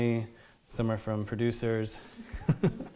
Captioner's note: laughs